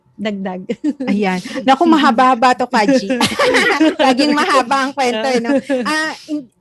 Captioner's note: laughs